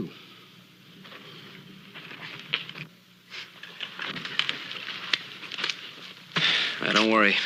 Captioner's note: sighs